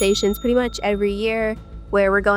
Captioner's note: ding